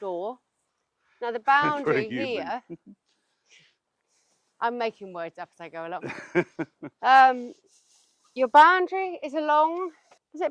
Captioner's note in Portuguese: Laughs